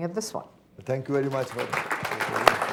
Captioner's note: applause